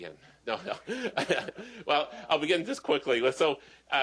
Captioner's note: chuckle